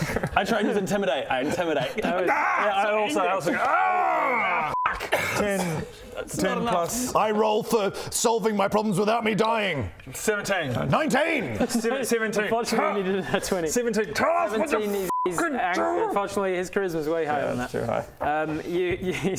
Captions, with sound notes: I try and use intimidate, I intimidate Gah! - I also, I also go *argggh* - So angry! F***! 10 - 10 + - That's not enough I roll for solving my problems without me dying 17 19! 17 Unfortunately you needed a nat 20 17 - Tell us what you're f***ing doing! - 17 is unfortunately his charisma's way higher than that yeah it's too high You--